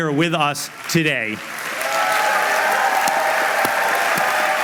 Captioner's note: applause